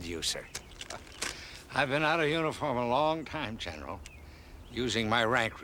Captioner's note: chuckling